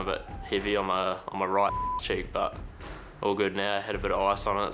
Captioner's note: beep